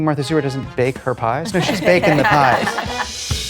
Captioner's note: all laughing